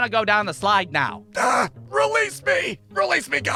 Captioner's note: strangled voice